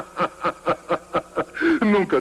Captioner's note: laughing and wheezing